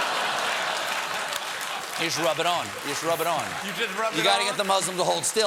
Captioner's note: laughter